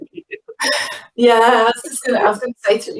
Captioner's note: laughing